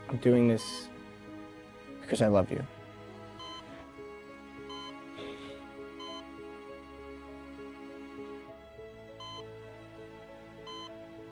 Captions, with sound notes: I'm doing this 'cause I love you. (machine beeping) (reflective music)